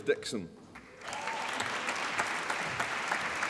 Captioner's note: applause